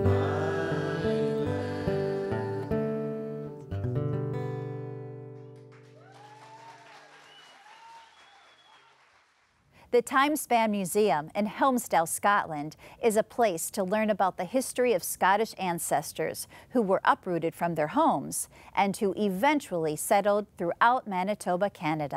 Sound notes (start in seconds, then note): 5.6 cheers & applause